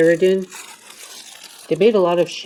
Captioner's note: crinkling of plastic wrap